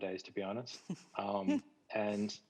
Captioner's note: chuckles